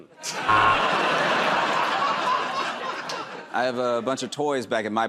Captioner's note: laughter and applause; buzzer